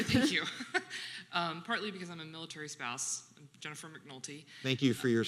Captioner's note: chuckles